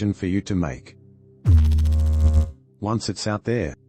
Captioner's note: electrical noise